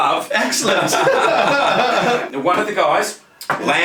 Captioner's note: both laughing